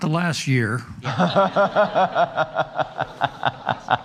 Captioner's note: laughing